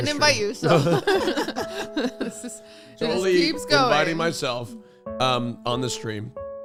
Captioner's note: laughs